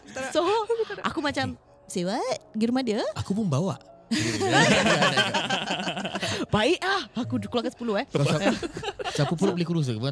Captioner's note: jokingly